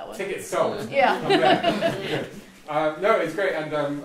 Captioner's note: all laugh